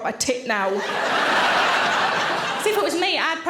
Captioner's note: audience laughing